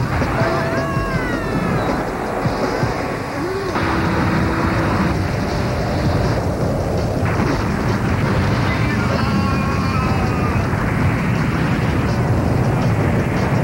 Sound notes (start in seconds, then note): 0.1 screams; 2.5 grunts and explosions